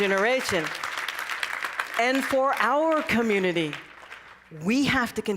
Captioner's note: cheering and applause